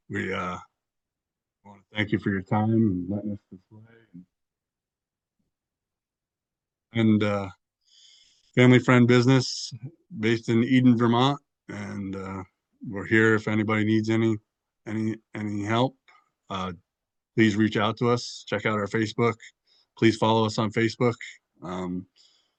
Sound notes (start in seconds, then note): 4.9 audio cuts out